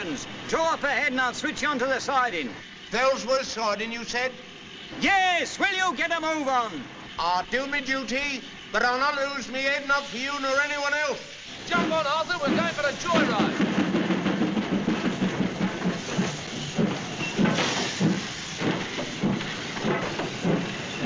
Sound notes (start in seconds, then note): 14.2 train starts